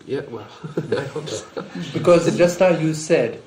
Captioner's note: laughs